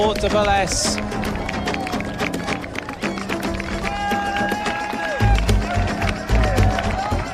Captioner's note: crowd cheering and applauding